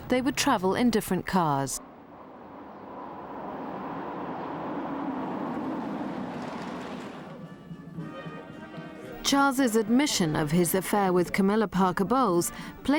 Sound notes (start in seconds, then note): 2.2 car engine revving; 6.4 ceremonial music